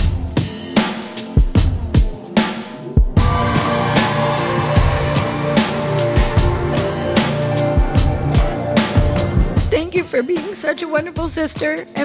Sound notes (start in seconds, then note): 3.2 people cheering; 3.7 uplifting music